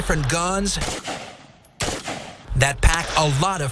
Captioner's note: gunshots